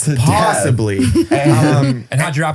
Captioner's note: laughs